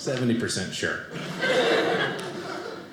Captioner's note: audience laughing